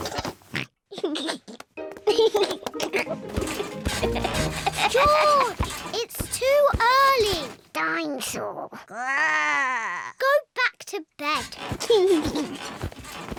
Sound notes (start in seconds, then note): 0.2 oinks and giggles; 3.4 continues to laugh; 8.8 growls; 11.4 laughs